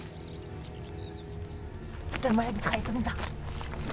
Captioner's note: Ellie speaks in French